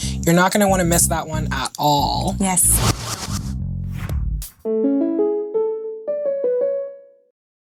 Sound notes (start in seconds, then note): 2.6 whooshing; 4.6 cheery music